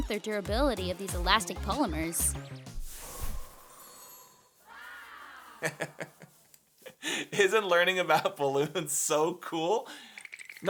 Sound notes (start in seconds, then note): 4.6 amazed children gasping; 5.5 laughter